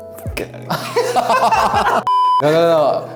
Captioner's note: both laugh